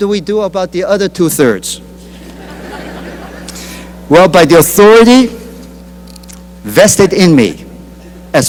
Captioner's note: laughter